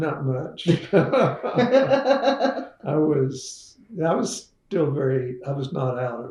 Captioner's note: laughter